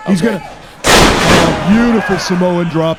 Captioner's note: loud thud